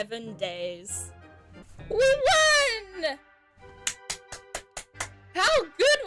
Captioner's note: claps